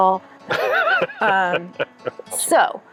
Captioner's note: laughing